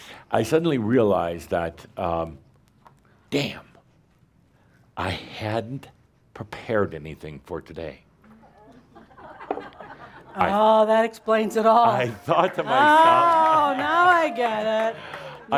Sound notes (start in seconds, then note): 8.6 some laughter